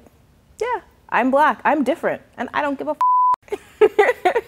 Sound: beep

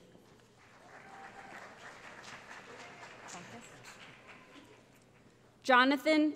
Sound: cheering

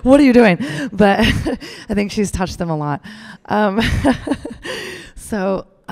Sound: laughs

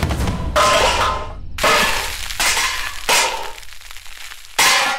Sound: vessel falls

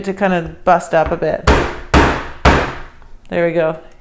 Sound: pounding

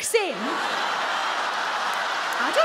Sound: audience groans

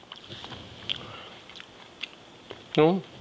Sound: Jacques chewing

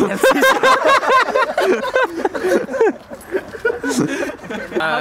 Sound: laughter

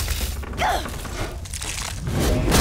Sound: gasping; grunting

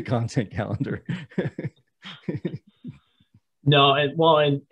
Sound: laughing

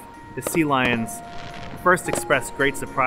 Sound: fireworks booming

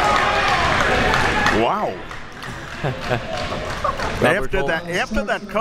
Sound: laughs

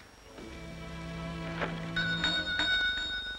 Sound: bell ringing

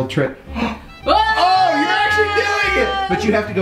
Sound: gasps

